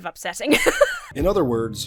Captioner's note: laughs